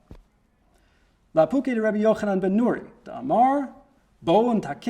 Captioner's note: reads in Hebrew